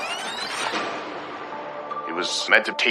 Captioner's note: tape rewinding